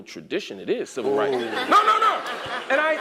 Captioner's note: laugh